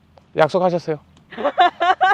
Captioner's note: hehe haha